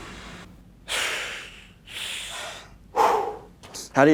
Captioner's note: exhausted panting